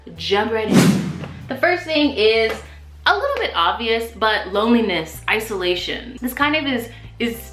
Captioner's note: swoosh